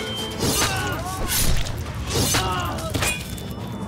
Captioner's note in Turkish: Bağırıyorlar